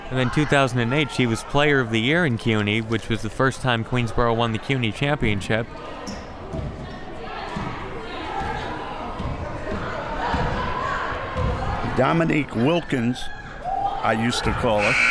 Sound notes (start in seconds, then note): 6.6 crowd chattering